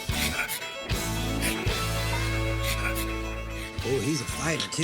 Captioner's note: raccoon snarling